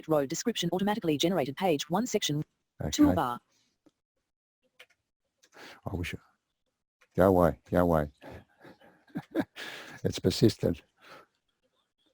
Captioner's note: laughs; pause